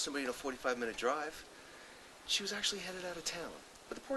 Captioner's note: whispers